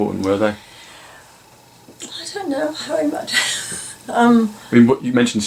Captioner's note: laughs